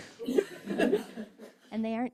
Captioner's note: laughs